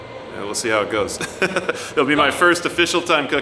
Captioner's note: laughs